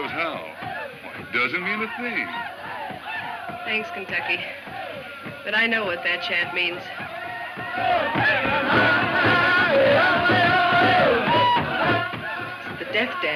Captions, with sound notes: They like to hear themselves howl. It doesn't mean a thing. - Thanks, Kentucky, but I know what that chant means. (drum music) (men chanting) The death dance.